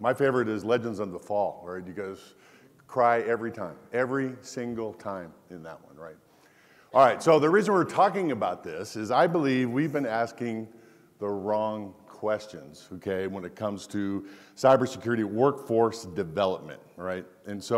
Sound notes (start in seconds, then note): none